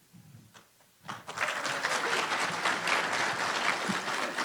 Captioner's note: applause